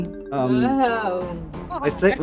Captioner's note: pained Noise; clownish but mirthless Laugh